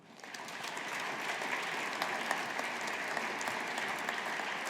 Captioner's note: audience applauding